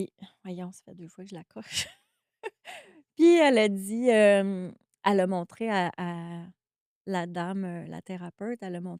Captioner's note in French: rires